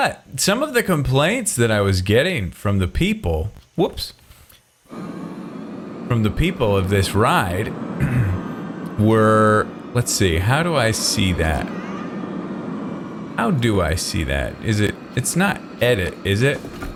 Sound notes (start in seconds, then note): 8.0 clears throat